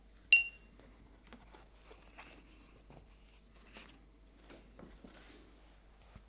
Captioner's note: paint brush clinks in glass holder